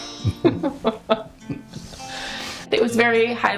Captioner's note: laughs